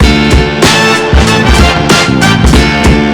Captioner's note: music and Diesel Engine Sounds